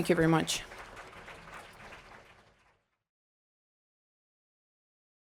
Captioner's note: audience applauding